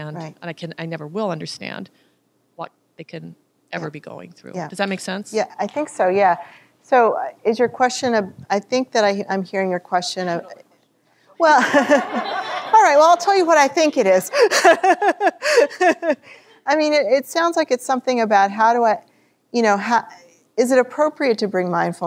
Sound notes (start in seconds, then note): 11.6 audience laughter; 13.9 chuckles